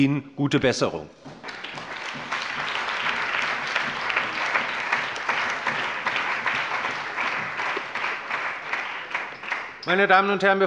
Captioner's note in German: Allgemeiner Beifall